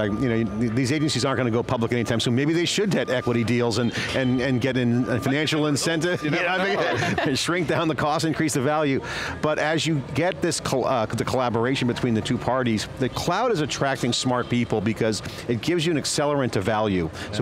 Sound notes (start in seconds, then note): 5.2 laughing